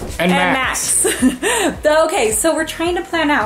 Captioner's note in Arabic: ضحكات خافتة